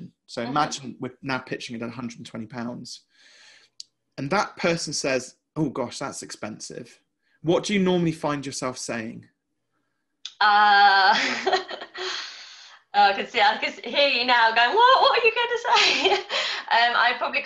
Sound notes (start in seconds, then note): 10.6 laughing